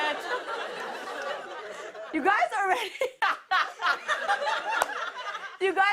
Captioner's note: laughs